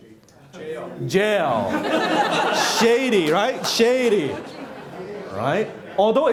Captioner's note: laughing